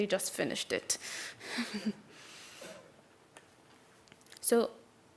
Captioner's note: laugh